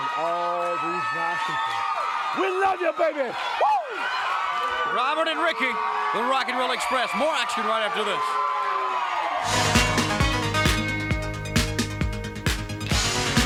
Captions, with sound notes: And all these nice people. We love you, baby! Woo! (crowd cheers) Robert and Ricky, The Rock 'n' Roll Express. More action right after this. (synth rock music plays)